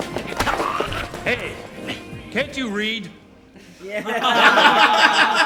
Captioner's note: gasps